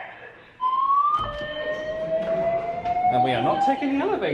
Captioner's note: alarm blares